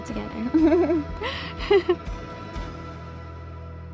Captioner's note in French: Rire